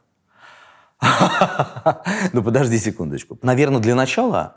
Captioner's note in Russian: смеётся